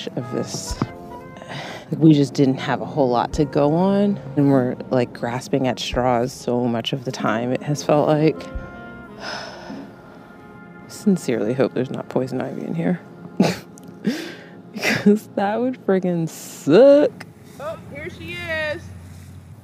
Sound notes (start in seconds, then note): 9.1 sighs; 13.3 laughs